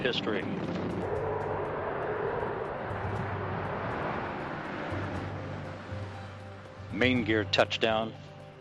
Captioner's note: nat sound of STS-135 Landing